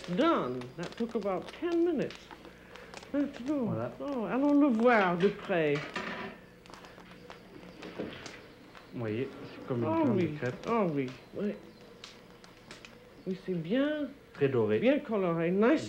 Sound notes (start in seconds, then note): 2.7 speaking french